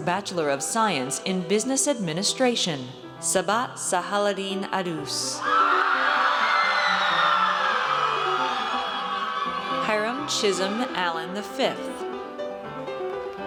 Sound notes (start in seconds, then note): 5.4 audience cheers